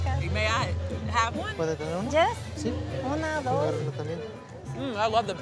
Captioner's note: speaking in foreign language